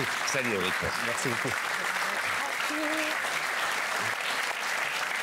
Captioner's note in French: Applaudissements